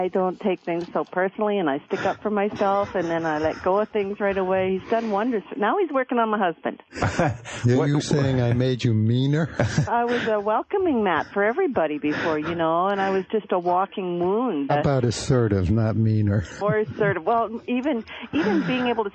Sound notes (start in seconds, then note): 6.9 laughs